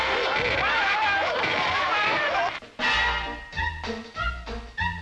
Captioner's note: Stooges yelping; lighthearted playful music